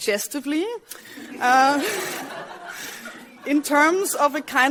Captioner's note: laughter